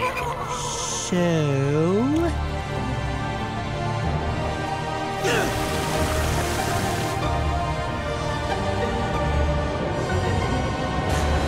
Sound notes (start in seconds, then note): 5.2 gasping